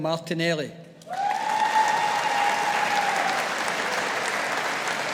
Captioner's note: audience applauding